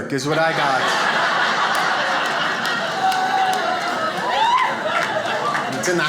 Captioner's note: audience laughs